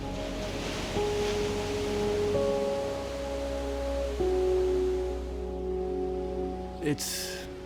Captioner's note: airy pensive music; waves crashing